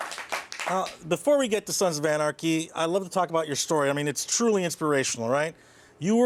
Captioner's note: applause